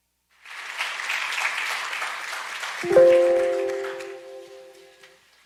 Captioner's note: audience applauds